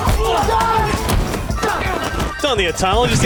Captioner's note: screams